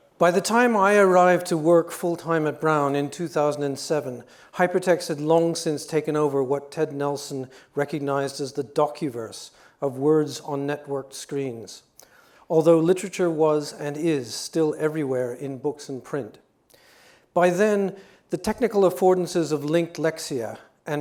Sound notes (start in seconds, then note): none